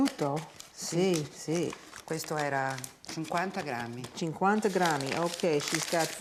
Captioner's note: speaking Italian